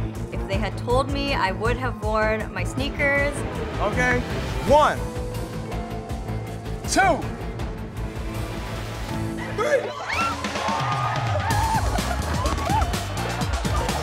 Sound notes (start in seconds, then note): 5.2 intense music; 9.5 cheering; 11.4 upbeat music